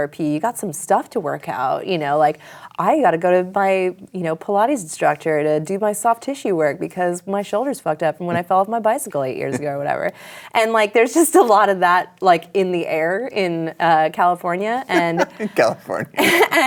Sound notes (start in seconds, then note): 10.9 laughs; 14.9 laughter